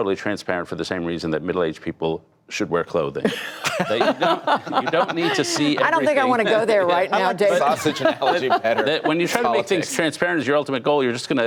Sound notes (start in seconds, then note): 3.2 laughter